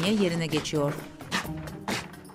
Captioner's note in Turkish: Ayak sesi